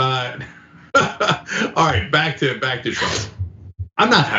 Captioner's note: laugh